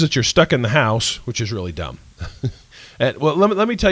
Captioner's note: laughs